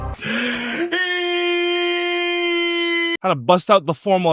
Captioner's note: Nikocado screams